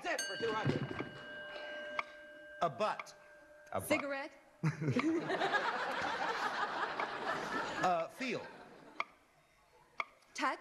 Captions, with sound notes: -That's it for $200! -Abut. -Abut. -Cigarette? (laughter) -Uh, feel.